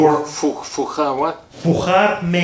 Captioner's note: speaking foreign language